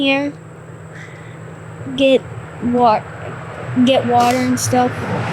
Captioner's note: traffic droning